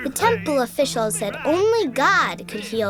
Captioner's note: voiceover